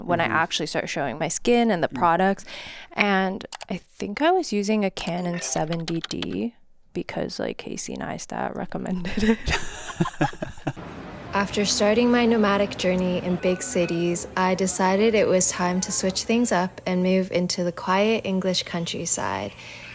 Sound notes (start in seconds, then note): 9.0 chuckles; 9.1 laughs